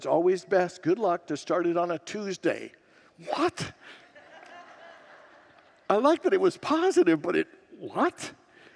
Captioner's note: congregants laugh